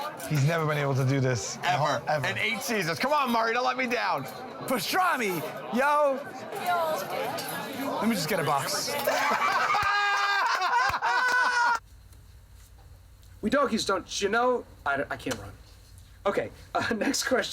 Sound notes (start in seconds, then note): 8.9 laughter